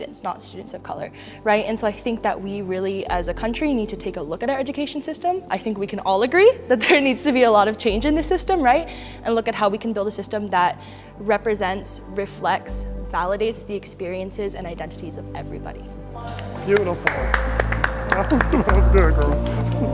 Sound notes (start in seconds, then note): 16.2 all clapping loudly